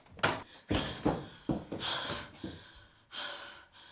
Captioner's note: pants